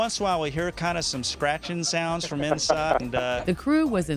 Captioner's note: laughter